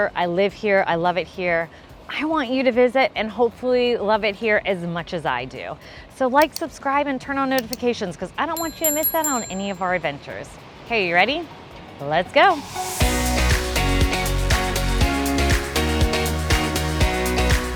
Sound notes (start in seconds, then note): 6.4 keyboard clicks; 8.6 bell chimes; 13.0 upbeat music begins